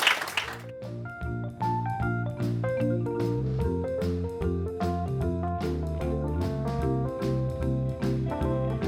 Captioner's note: applause